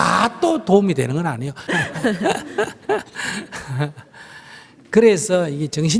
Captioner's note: laughter